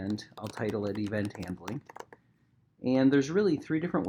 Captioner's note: keyboard clacking